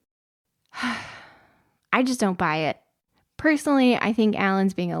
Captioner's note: sigh